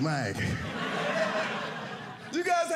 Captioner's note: audience laughing